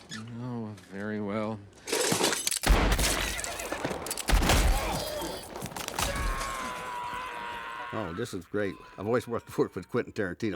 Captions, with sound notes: Oh , very well . [horse whinnying] [man screaming] Oh , this is great. I've always wanted to work with Quentin Tarantino,